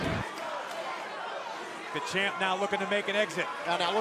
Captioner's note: crowd chatter